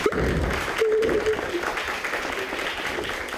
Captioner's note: crying; audience applauding